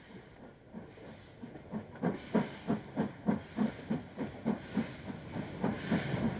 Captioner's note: train passes